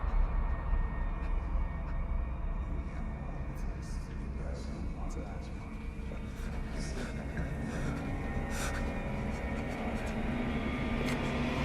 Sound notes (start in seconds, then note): 3.7 William speaking in tongues; 8.9 tense music